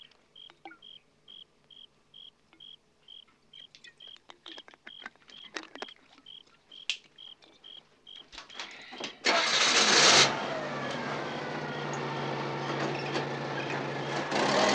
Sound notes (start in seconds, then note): 8.4 engine cranking